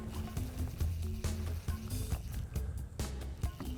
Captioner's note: reel clicking